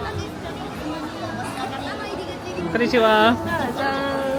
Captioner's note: crowd chatting